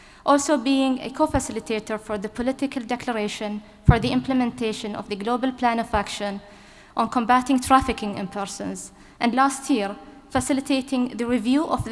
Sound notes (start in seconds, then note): none